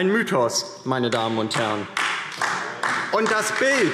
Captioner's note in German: Beifall DIE LINKE - Zuruf